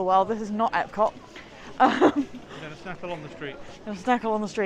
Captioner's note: laughs